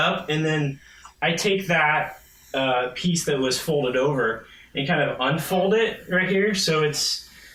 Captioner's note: none